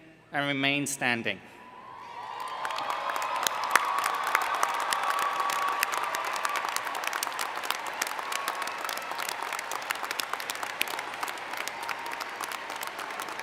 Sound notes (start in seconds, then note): 1.5 cheering